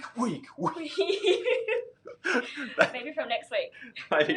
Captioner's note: laughs